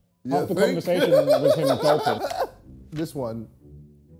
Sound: laughing

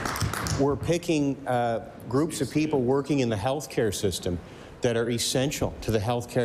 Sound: applause

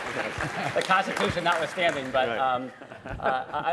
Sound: laughter & applause

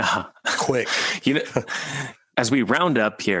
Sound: chuckles

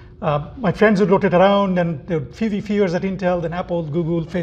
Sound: murmurs

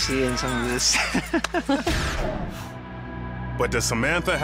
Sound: laughing

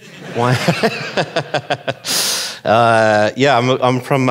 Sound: audience laughing

